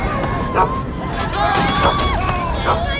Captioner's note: all chuckling; bed creaks